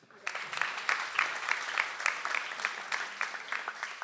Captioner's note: audience applauds